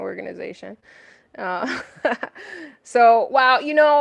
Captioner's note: laughs